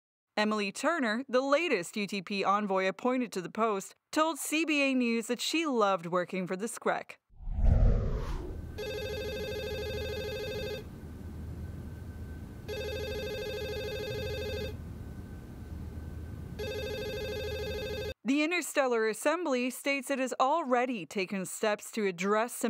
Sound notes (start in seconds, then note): 8.5 phone ringing